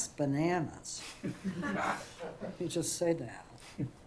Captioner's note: laughter